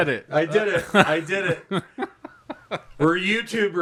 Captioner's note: chuckling